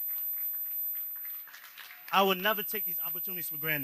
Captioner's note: applause